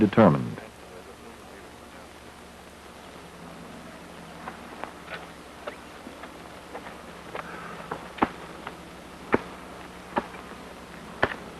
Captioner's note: quiet digging sounds